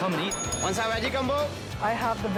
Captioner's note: bell dings